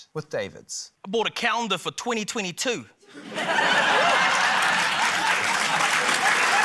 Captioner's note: laughter, applause